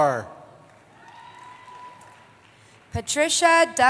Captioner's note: cheering